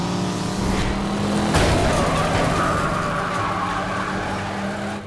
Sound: grunting, screeching

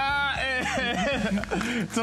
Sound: laughter

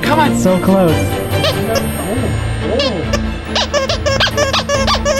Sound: toy squeaking

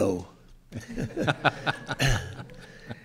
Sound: laughing

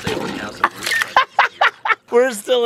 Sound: laughs

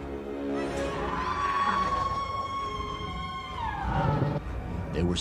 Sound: dramatic music; person screaming

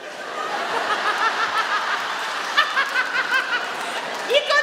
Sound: she laughs

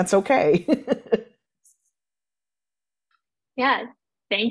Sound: laughing

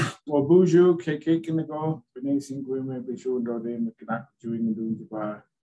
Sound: speaks in foreign language

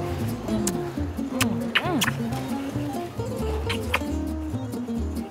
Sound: kissing

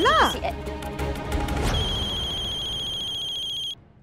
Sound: phone ringing

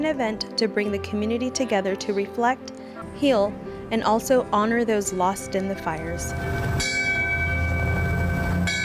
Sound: bell ringing

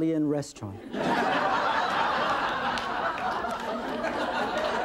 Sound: audience laughing

